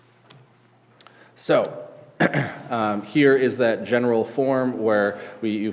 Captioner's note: clears throat